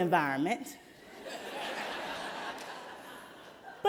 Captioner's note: laughter